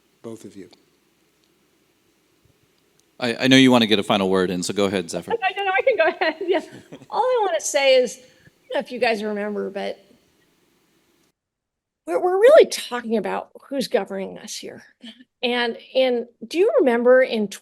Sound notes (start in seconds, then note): 5.3 laughs